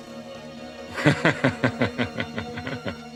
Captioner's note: laughing